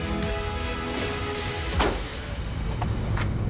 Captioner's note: door slams